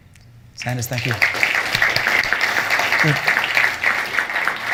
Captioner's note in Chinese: 掌聲